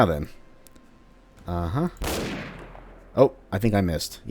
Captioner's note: bam